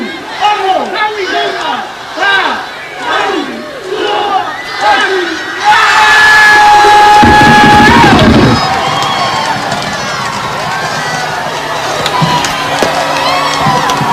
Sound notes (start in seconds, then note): 5.6 shouts of Celebration & Applause